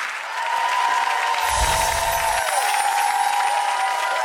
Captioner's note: audience applause